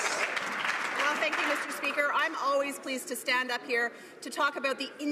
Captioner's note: some Applause